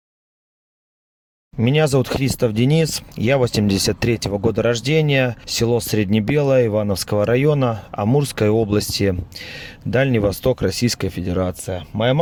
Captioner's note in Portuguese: russo